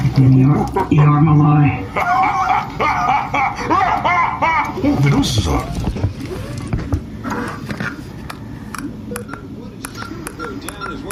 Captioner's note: laughter